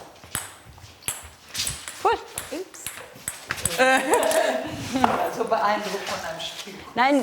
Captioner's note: laughing